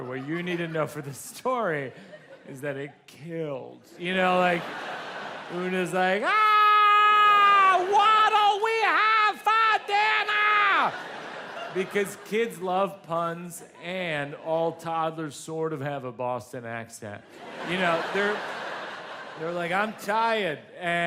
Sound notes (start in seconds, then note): 9.2 audience laughs